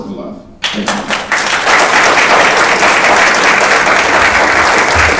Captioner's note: audience applauding